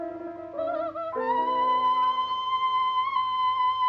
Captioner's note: yelling